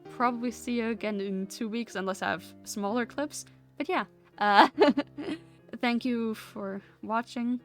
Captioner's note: laughs